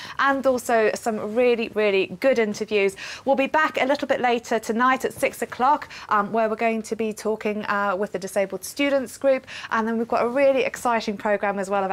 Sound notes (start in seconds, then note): none